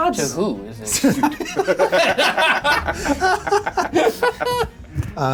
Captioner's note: players laughing